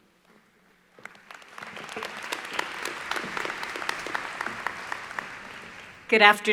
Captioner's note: applause